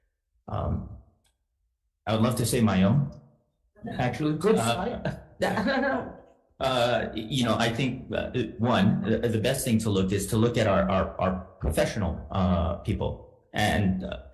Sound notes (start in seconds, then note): 3.9 laughing